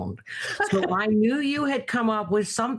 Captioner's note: laughing